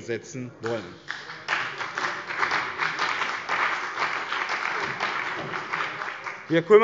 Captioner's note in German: Beifall bei dem BÜNDNIS 90/DIE GRÜNEN und der CDU